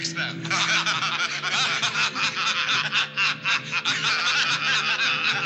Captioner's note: laughter